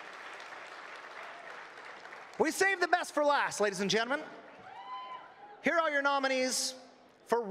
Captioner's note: applause